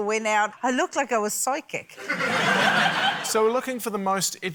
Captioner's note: laughter